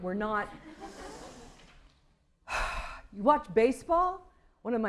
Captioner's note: sigh